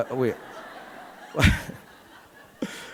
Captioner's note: audience laughing; laughs